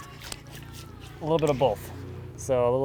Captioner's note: water sploshing